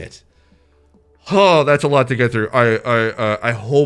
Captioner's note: sighing with relief